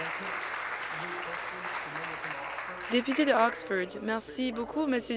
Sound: applause

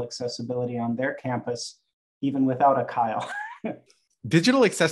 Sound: chuckles

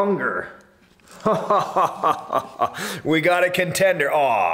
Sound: laughing

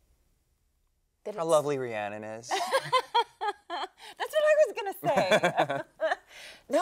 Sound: laughs

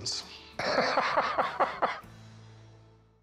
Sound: laughter

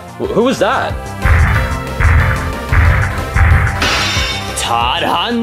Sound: fighting music; loud stomping

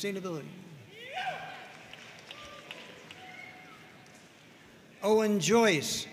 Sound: audience cheering and applauding

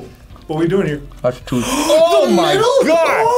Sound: gasps

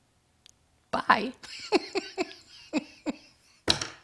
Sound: giggling

